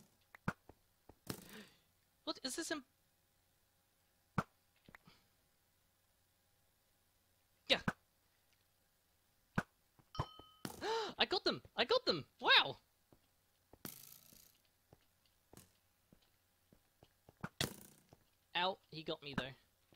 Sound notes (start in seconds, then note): 0.0 arrows Firing; 4.3 arrows Firing; 10.7 gasp; 13.1 arrows Firing